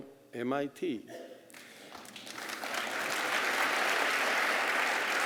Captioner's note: applause